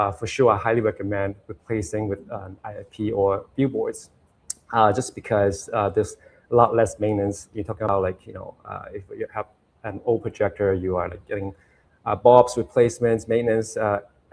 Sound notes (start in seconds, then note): none